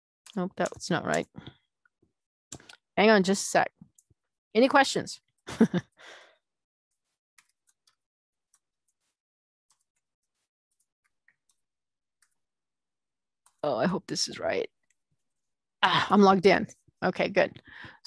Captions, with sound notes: OK, it's not right. Hang on just a sec. Any questions? [LAUGHING] Oh, I hope this is right. I'm logged in. OK, good.